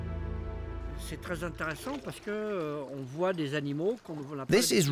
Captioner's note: speaking French